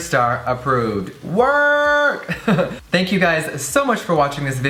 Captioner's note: laughs